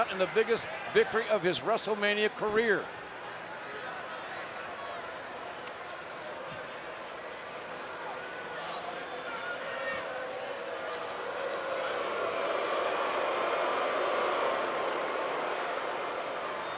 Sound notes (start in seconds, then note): 3.3 crowd yelling; 11.3 crowd booing